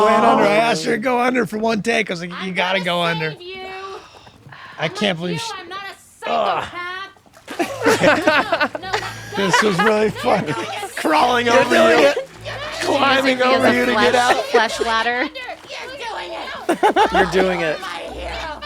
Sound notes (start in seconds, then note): 7.7 laughter; 16.5 Dee and the Waitress screaming